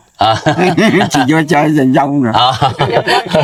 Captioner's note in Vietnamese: tiếng cười